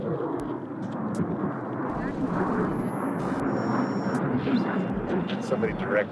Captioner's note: jet flying sounds